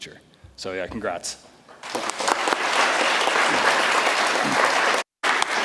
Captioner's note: audience applauds